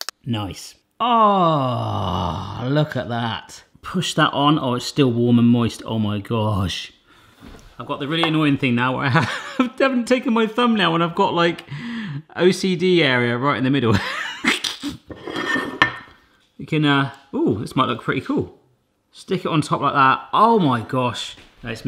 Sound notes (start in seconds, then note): 14.7 laughs